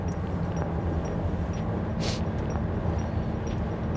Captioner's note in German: schnieft